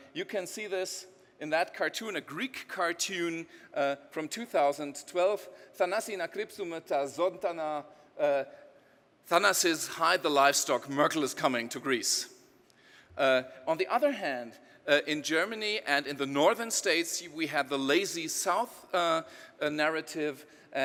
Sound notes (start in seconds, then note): 5.0 speaking in foreign language